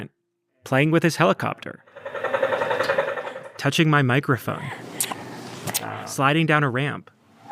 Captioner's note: truck sounds; mic noise